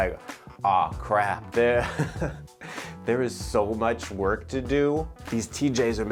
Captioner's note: giggles